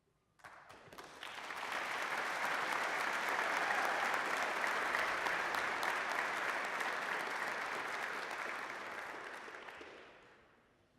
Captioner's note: applause